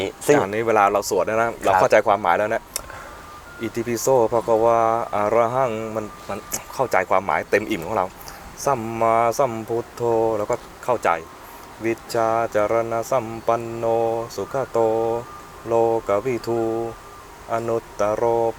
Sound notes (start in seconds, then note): 3.9 chanting